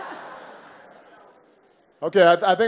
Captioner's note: laughter